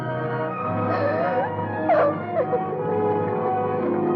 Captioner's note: Carla sobbing